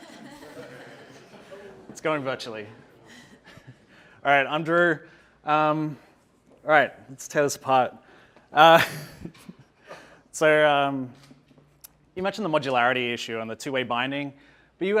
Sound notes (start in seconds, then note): 0.0 audience laughing; 8.8 laughs